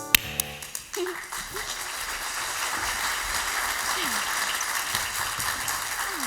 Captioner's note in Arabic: توقف الموسيقى، تصفيق